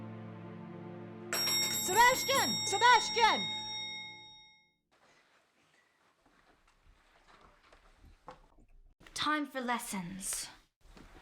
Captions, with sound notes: [bell ringing] Sebastian! Sebastian! Time for lessons.